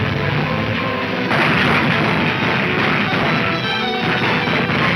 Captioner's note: gunshots banging